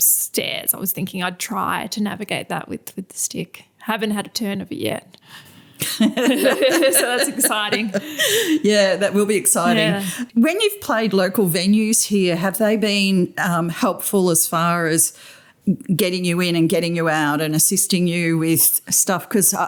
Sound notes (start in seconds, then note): 5.8 laughter